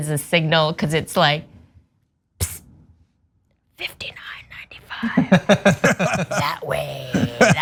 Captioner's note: laugh